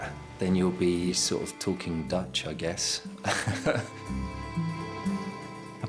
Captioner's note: laughing